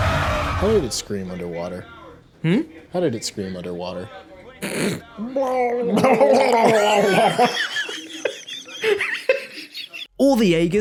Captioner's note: gargled scream noises